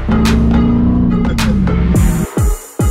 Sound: upbeat hiphop music; car engine growling; upbeat hiphop music

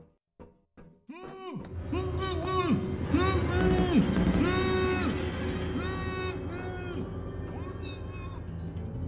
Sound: muffled grunting

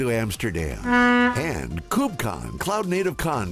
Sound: boat honks

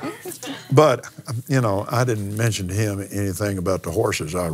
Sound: laughs

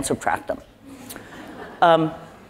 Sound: laugh

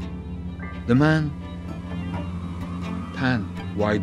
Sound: blowing

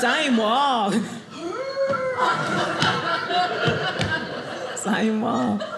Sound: audience laughing

